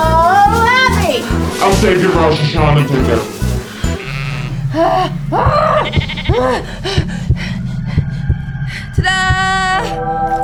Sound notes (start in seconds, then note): 1.5 demonic voice; 4.7 Abby panting; 7.8 rooster crows